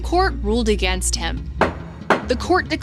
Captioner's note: gavel bangs